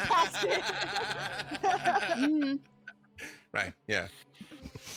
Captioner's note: laughing